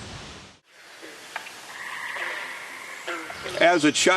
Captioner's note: birds chirping